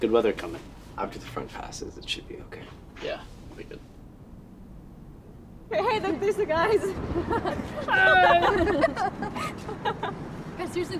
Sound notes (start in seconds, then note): 6.9 laughs